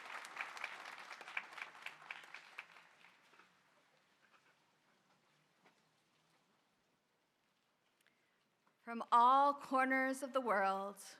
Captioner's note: applause